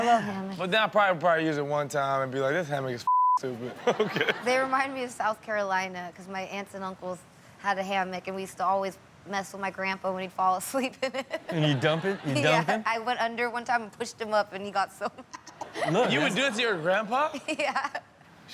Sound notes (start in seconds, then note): 11.3 laughs; 15.2 laughs